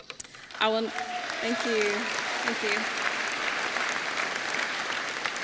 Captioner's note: applause